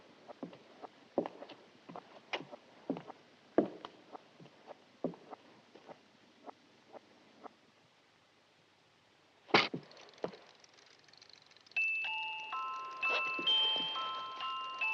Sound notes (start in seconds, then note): 9.7 gears spinning; 11.7 music box